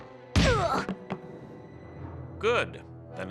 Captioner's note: grunts